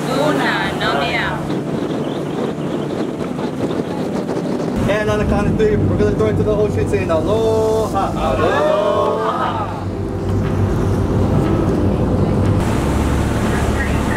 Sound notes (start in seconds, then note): 1.8 wind blowing